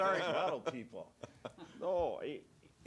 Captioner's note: laughing